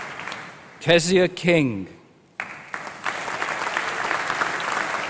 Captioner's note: applause